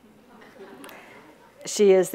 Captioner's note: audience laughs